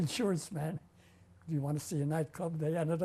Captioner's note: laughs